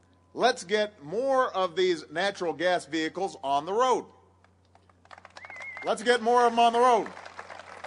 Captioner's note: applause